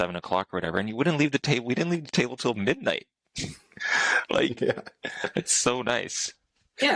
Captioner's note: laughter